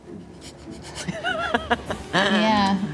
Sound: laughs

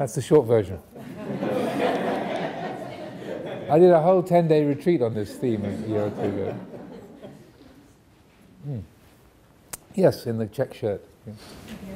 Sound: audience laughing

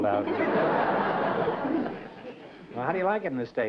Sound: laughter

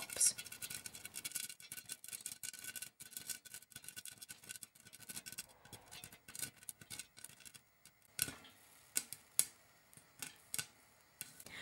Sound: popcorn popping

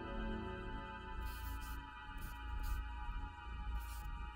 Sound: pen scraping

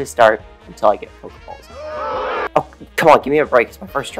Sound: booing

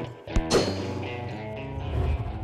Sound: gunshot

